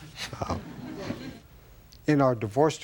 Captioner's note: audience laughs